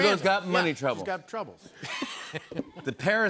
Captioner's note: laughter